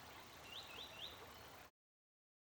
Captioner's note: birds chirping continues